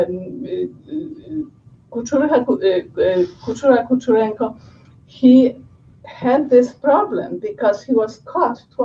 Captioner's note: non-english speech